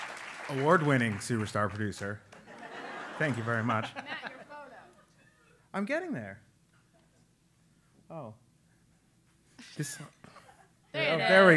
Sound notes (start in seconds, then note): 0.0 applause; 2.4 laugh